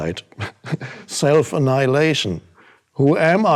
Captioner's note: chuckles